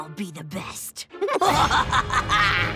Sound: laughing

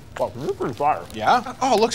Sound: mumbling around muffin

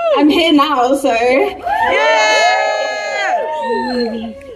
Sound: cheering

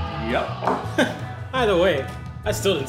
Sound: laughs

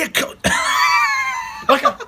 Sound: laughing

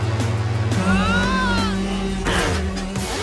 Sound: screaming

